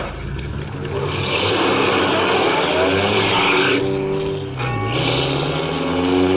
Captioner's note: car drives off, tires squealing